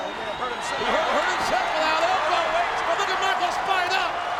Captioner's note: audience cheering and clapping